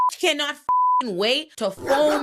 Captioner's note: beep